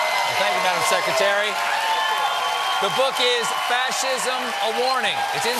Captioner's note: cheers and applause